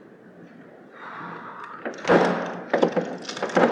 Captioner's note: sighs